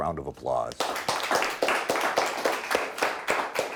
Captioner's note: clapping